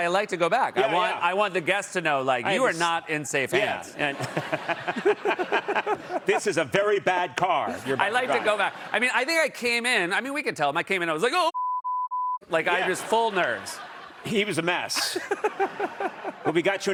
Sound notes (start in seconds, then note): 6.6 laughter